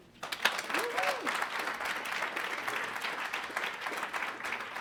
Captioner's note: attendees applauding